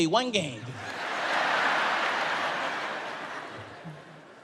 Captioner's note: audience laughs